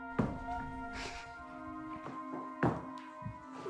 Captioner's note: crying; dramatic music